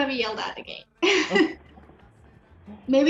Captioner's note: chuckles